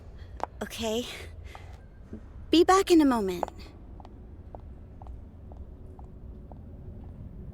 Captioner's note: footsteps fading away